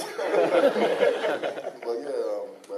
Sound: laughing

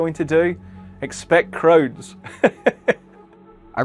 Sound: laughs

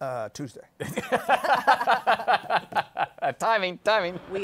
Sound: laughs

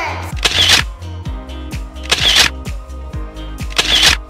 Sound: camera shutter

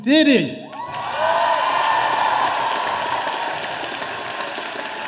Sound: audience applauding

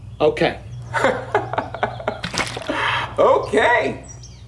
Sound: laughs

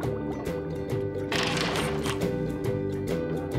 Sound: creaking door

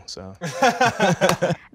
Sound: laughter

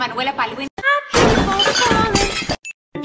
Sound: crash

